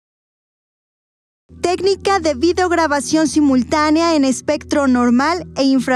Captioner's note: speaking in foreign language